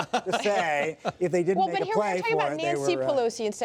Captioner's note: laughter